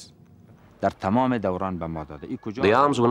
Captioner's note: speaking Afghan